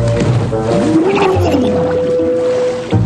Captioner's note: muffled groan